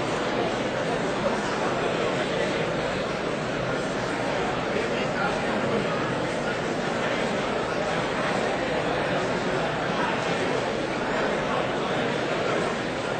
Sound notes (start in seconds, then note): none